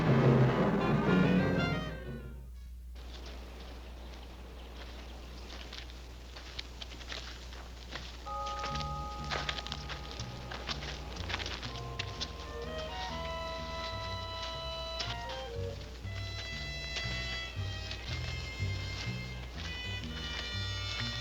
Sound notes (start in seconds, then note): 0.0 dramatic music; 8.2 bell ringing; 8.3 dramatic music